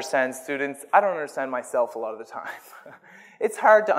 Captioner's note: laughs